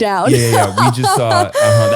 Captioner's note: laughing